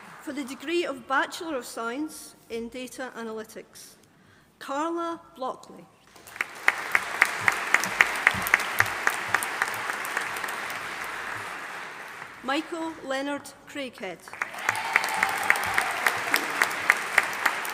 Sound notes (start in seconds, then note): 6.1 audience applauding; 14.3 audience applauding